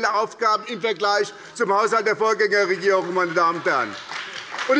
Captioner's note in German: Beifall bei der SPD